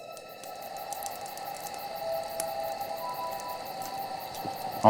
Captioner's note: tense music; flames crackling